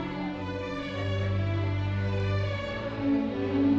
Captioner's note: none